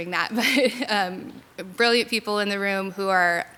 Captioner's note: laughs